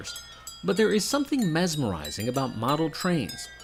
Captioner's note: clinking